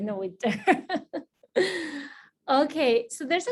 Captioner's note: laughing